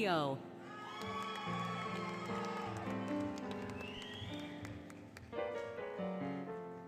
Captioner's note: applause, Cheering, Music